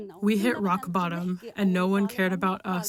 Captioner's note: through translator